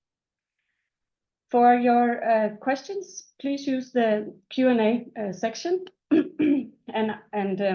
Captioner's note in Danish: clears throat